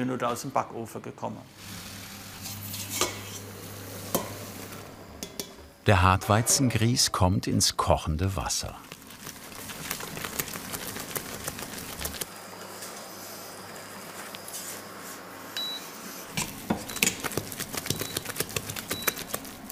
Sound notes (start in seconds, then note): 15.6 beeping noises